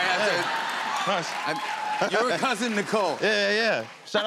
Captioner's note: cheers and applause